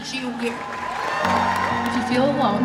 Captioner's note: applause